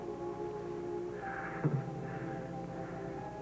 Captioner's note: Josh laughs nervously